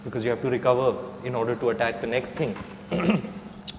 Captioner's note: clears throat